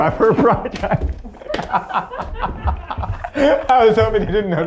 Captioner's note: laughing